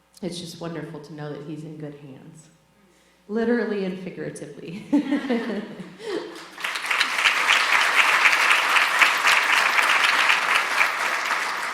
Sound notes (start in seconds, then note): 4.9 laughs; 6.1 audience applauding